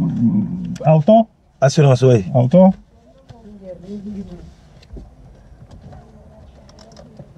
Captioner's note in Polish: rozmowa w j. francuskim